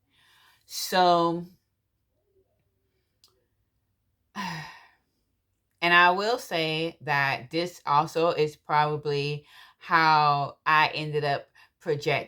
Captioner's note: deep breath